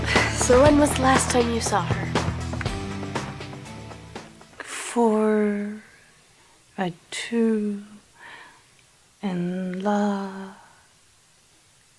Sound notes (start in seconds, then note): 3.9 mumbles numbers